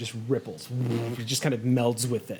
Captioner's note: vibrates